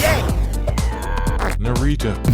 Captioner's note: struggle fart